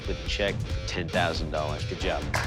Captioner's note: applause